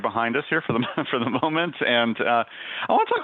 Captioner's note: laughs